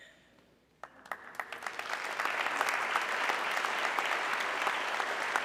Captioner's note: audience clapping